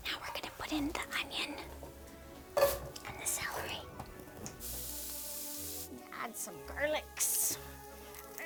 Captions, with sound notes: Now we're gonna put in the onion and the celery. (oil sizzling) Gonna add some garlics.